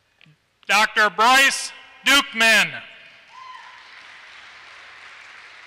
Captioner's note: applause